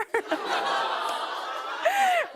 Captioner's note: audience aws